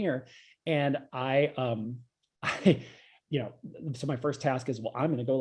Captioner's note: laughs